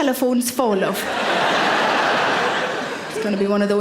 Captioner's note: audience laughing